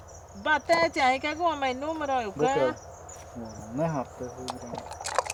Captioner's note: on the phone